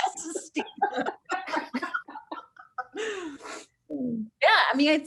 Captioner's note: laughs